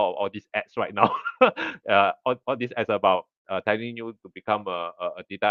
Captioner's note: laughs